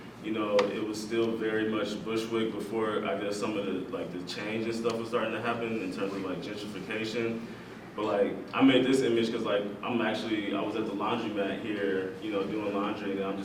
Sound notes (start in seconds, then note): none